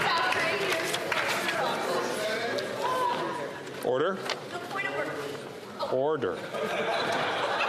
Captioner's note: laughter